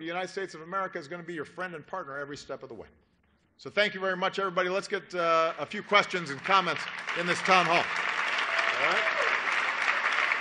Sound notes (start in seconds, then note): 5.2 applause